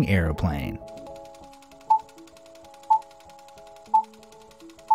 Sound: movie reel spinning and beeps

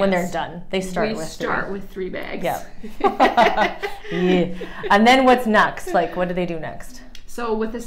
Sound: laughing

